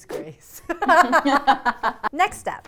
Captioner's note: laugh